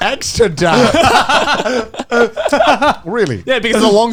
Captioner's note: both laughing